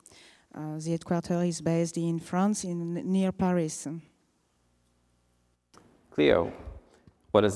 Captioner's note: french